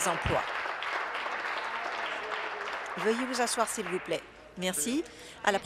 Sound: applause

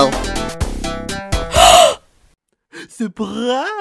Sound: gasps!

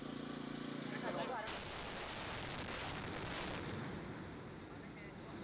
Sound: bridge explodes

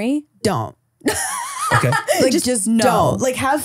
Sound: laughing

